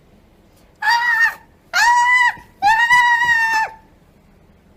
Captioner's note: scream/squeal